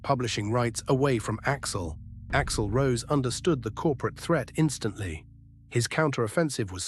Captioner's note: SFX: dramatic heavy boom